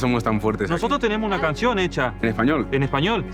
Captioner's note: in Spanish